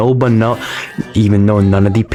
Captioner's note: inhales Oxygen